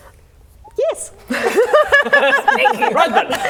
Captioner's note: laughing